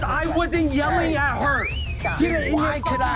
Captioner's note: whistling